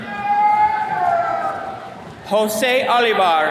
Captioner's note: attendees cheering